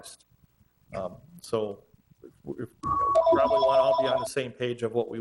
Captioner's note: telephone ringing